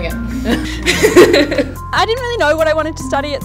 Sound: both laugh

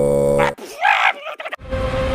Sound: sneezing

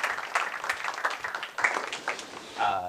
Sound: applause

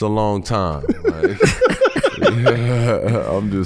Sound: all laughing

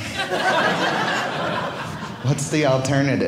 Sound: audience laughing

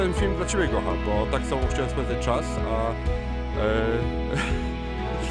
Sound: laugh

